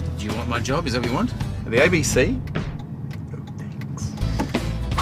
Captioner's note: whispers